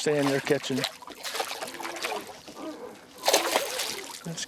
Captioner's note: splashing